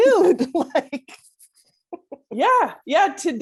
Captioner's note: laughs